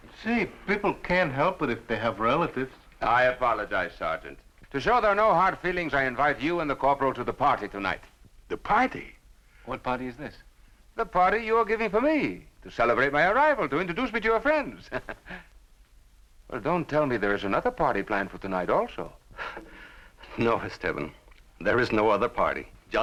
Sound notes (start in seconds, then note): 14.8 chuckles